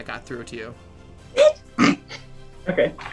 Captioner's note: snorting noise